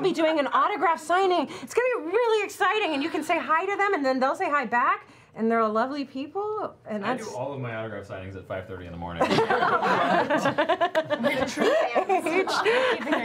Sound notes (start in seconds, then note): 9.2 laughter